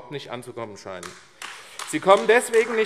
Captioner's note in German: Beifall AfD